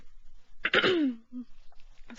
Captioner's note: clears throat